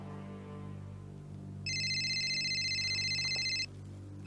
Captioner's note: phone rings